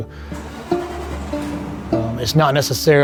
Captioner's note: truck engine cranking